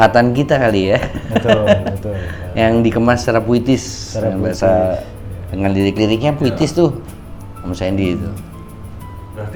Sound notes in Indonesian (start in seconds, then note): 0.9 tertawa